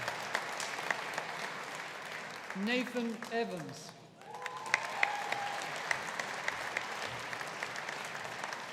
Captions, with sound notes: Nathan Evans. (AUDIENCE APPLAUDING)